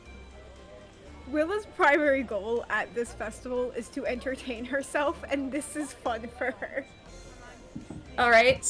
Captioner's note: laughs